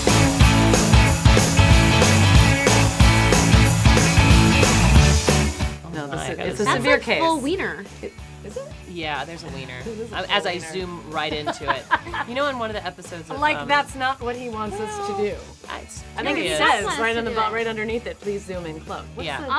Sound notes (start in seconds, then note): 11.4 laughing